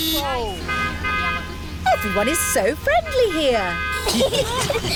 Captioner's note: honking; italians honk back; all giggling